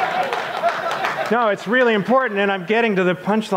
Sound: audience applauds; audience laughs

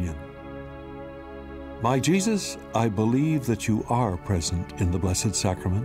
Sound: announcer reciting prayer

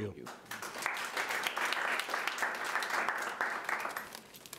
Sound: audience applauding

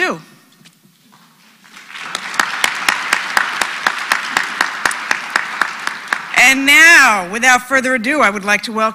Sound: applause

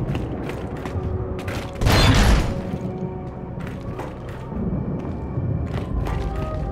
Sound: gunshot

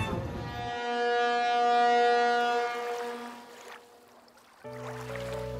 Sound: boat horn blasting; water babbling; tranquil music

